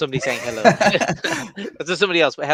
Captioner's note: laughing